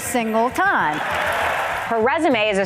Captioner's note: cheers and applause